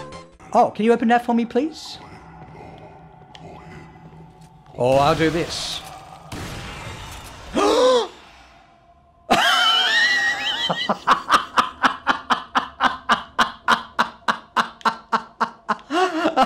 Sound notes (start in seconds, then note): 9.3 laughs a lot